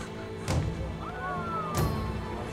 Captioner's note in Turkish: Hep bir ağızdan